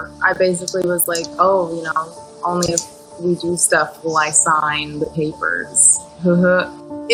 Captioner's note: none